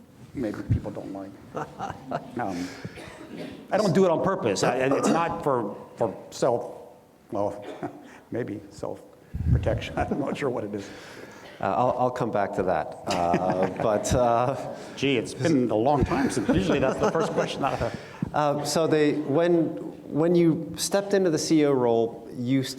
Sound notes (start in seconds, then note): 1.5 laughs; 16.0 laughs